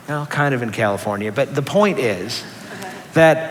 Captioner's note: laughter